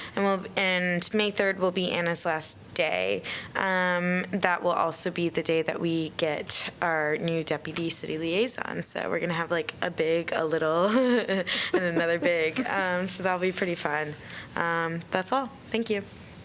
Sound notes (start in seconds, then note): 11.6 laughter